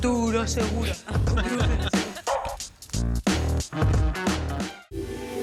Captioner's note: they all laugh